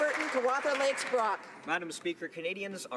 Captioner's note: some Applause